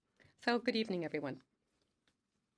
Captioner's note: speaking French